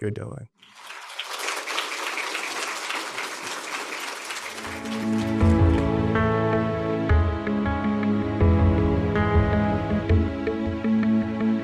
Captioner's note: applause